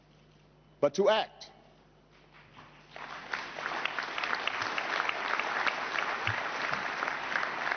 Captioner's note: applause